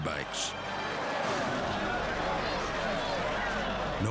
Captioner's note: all chattering indistinctly